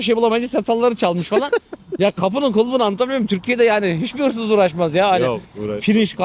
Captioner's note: laughs